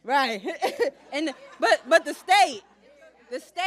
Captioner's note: laughs